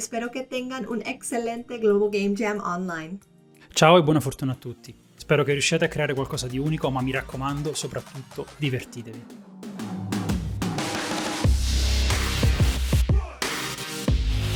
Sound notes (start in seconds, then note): 3.7 in Italian